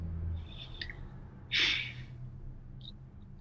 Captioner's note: sighs heavily